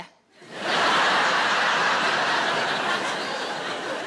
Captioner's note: audience laughs